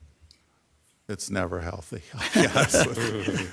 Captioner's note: people laughing